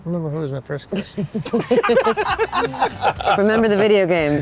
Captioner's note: laughter